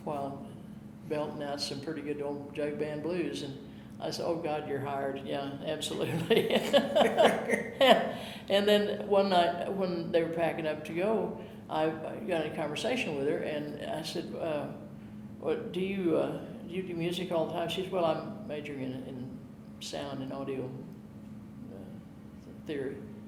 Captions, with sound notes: while belting out some pretty good old jug band blues. And I said, oh God, you're hired, yeah absolutely. (laughing) And then one night when they were packing up to go I got in conversation with her and I said, do you do music all the time? She says, well, I'm majoring in sound and audio theory.